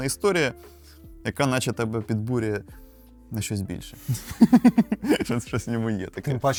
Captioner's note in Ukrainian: сміх